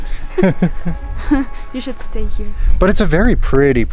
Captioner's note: laughs